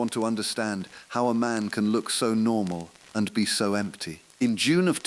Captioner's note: exhale